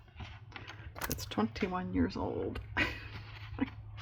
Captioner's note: laughs